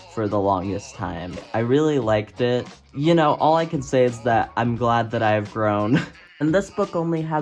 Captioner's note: laughs